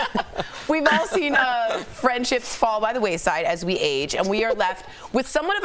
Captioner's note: laughter